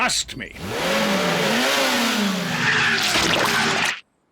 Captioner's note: revs engine